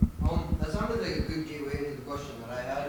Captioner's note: voiceover